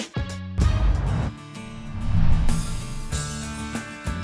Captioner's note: whoosh